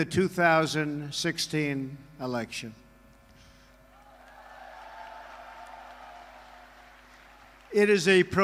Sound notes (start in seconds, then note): 4.0 applause